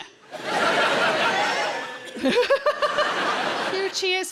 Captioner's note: audience cheers